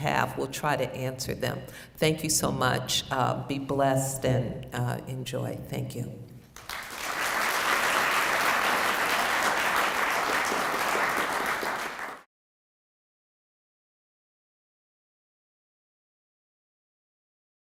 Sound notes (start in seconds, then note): 6.5 applause